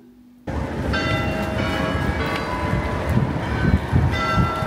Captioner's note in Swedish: Klocka ringer